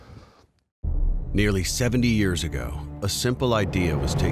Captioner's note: voiceover